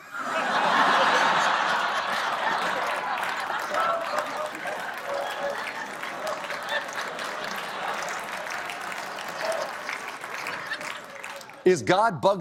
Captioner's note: laughter